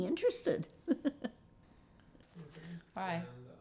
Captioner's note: laughing